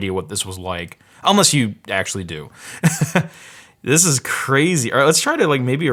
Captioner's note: laughs